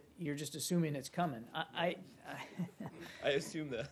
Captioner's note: laughter